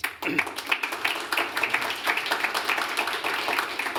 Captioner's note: applause